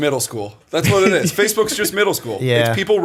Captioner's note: laughter